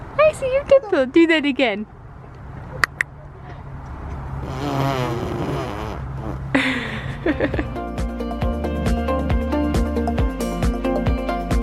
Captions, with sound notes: I see your dimple, do that again! (clicks tongue) (blows raspberry) (laughing) (upbeat music)